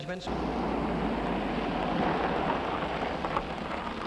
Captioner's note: car rumbling